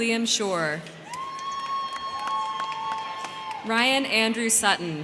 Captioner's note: crowd clapping; crowd cheering